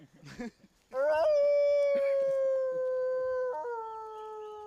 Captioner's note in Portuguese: uivando